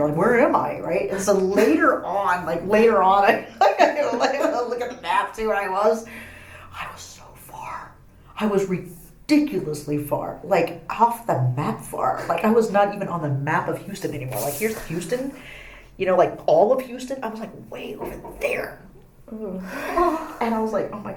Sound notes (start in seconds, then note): 3.3 laughing; 7.3 whispering